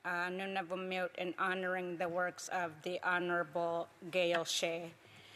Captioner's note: speaking Alternate Language